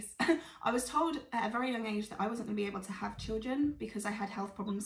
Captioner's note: laughs